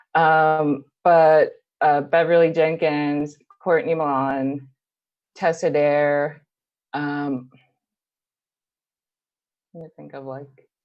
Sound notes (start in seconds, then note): none